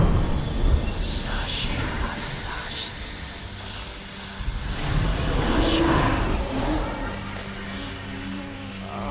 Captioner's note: ghostly whispering; woman moaning faintly